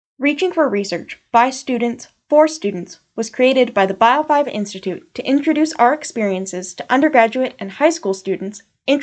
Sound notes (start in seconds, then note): 0.0 voiceover